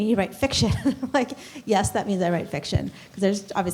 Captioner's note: laughter